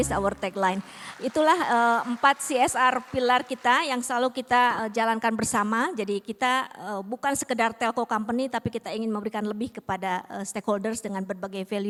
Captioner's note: non-english speech